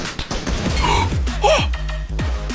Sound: gasp

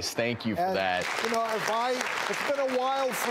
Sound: audience applauding

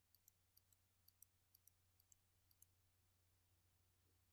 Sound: mouse clicks

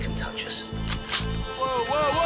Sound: gun cocking

